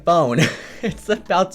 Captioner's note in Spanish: Ríe